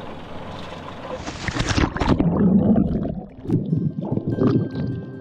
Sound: water splashing; soft music

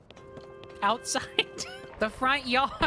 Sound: laughter

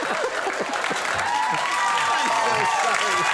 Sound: audience cheers

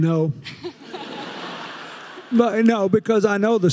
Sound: audience laughing

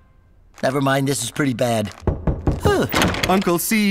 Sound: knock on door

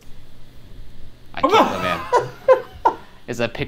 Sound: laughs

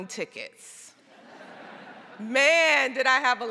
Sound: crowd laughing

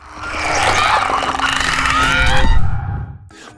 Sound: Angry croak of the Clicker; Ellie cries out in pain

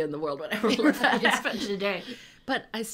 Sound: laughing

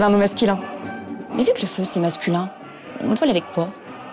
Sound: in french

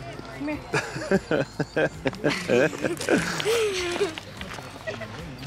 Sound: laughs

